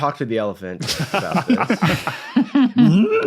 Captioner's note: others laughing